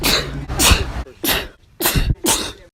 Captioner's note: sneeze